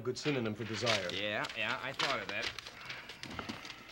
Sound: sigh

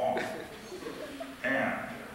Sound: laughter

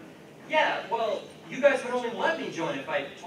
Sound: in whiny voice

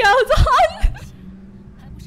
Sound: laughs as I realise I'm an idiot

